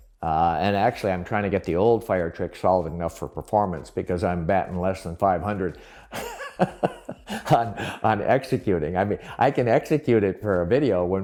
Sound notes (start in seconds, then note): 6.1 laughs